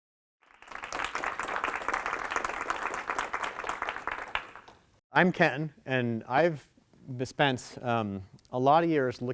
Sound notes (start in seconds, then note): 0.4 audience applauding